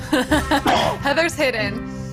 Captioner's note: laughs; coughs